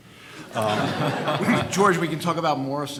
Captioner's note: audience laughing